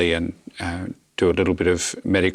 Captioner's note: none